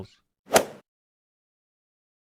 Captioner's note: swoosh